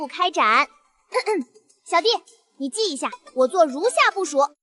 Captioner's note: cough cough